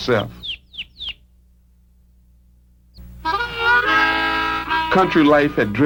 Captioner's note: birds chirping